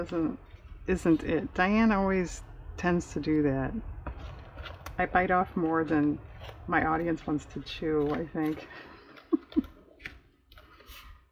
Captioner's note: laughs